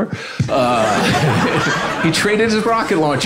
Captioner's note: audience laughing